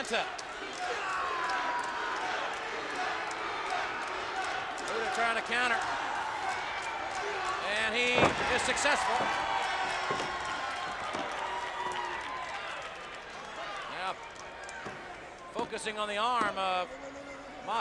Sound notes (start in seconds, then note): 9.2 audience cheers